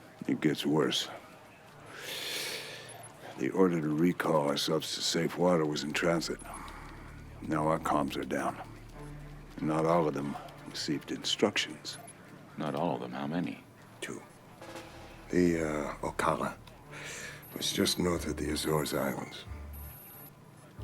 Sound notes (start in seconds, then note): 2.1 sigh